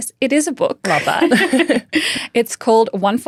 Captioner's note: laughing